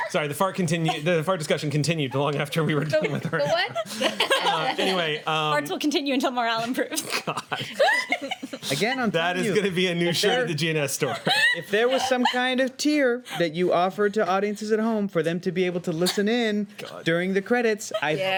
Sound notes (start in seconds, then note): 8.5 laughing